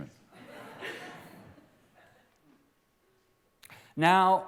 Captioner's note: laughter